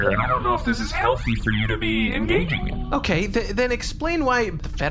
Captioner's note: conspiratorially